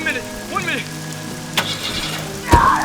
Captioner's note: car starts; woman screams